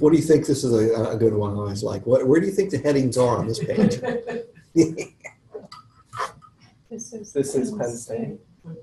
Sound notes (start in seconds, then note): 3.4 laughter